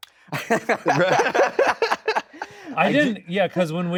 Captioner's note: all laughing